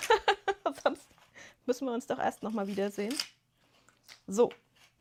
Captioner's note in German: gelächter